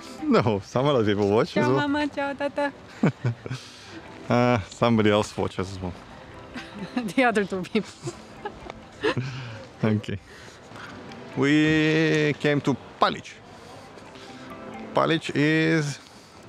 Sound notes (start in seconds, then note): 2.8 laughing; 8.7 laughing